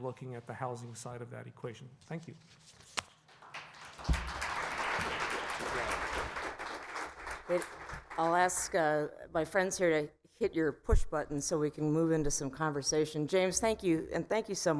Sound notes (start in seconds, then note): 3.2 applause